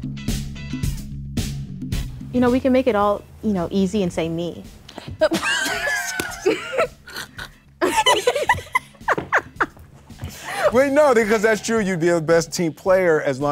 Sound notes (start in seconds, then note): 0.6 upbeat music; 5.2 Will and Sanniya laugh